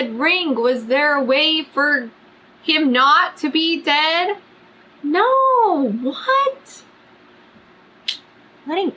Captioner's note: sucks teeth